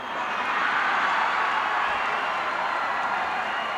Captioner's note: crowd cheers